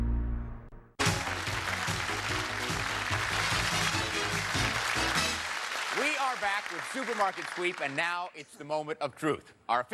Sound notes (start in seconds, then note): 1.0 cheers and applause